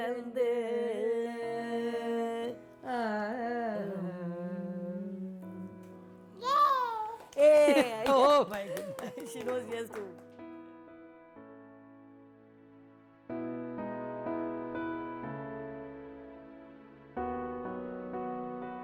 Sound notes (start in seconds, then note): 6.5 clapping